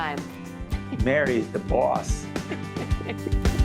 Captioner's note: laughing